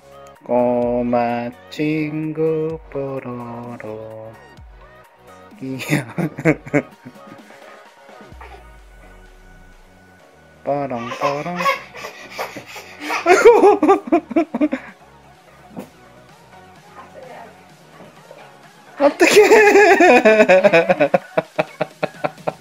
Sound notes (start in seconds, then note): 5.7 laugh; 12.4 laugh; 18.9 laugh